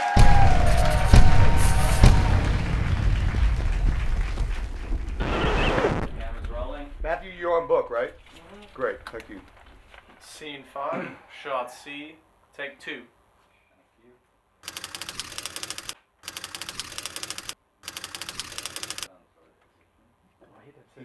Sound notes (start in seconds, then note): 0.0 audience applauding; 0.3 atmosphere rumbling; 5.1 record scratching; 14.7 typewriter clicking